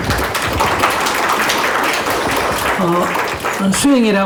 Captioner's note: applause